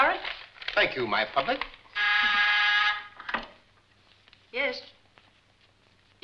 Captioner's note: buzzer ringing